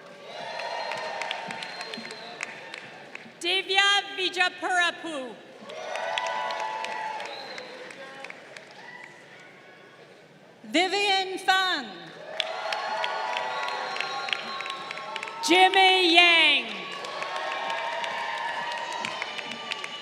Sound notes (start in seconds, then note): 0.0 crowd cheering; 5.5 crowd cheering; 11.8 crowd cheering